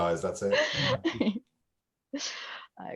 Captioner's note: laughing